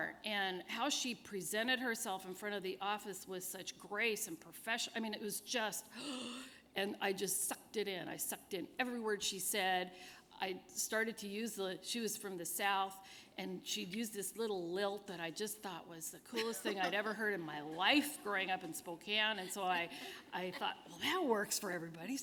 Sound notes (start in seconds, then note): 5.9 gasp